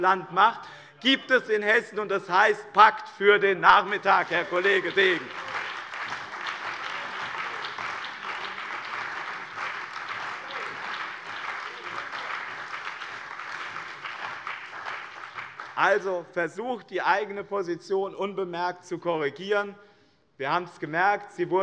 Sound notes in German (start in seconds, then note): 5.2 Beifall bei dem BÜNDNIS 90/DIE GRÜNEN und der CDU